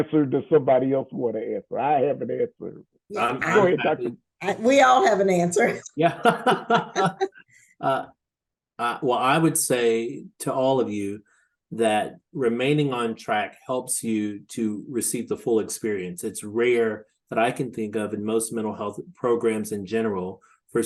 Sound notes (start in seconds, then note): 5.6 laughs; 5.6 chuckles